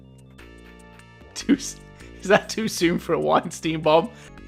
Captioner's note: chuckling